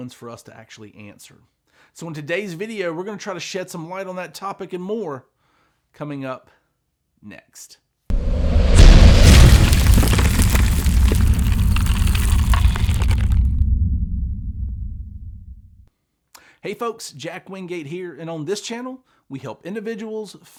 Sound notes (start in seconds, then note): 8.1 logo reverberates; 10.5 logo crumbles